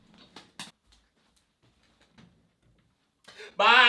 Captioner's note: footsteps